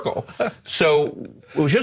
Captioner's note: laughs